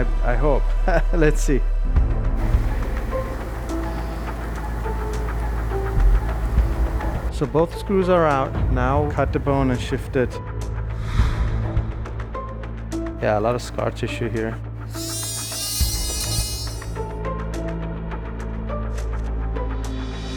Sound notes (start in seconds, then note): 2.5 suspenseful music; 14.9 drill whirring; 17.2 suspenseful music